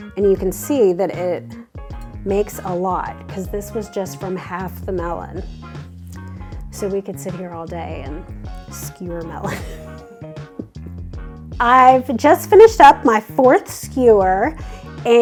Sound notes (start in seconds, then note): 9.5 laughs